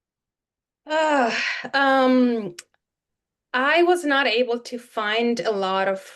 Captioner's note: sighs